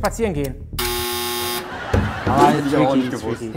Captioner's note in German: Lachen